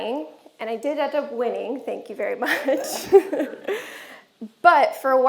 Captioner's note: chuckles